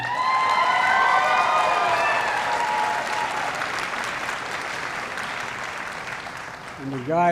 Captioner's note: applause